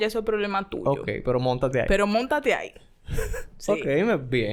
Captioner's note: laughs